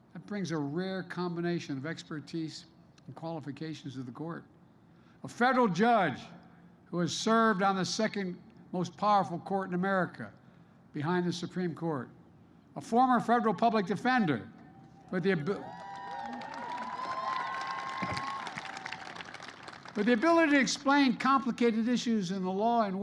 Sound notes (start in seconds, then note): 15.1 applause